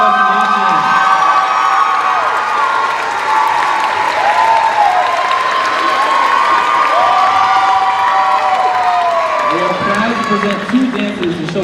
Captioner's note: cheers